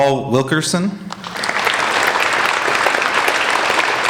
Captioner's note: applauding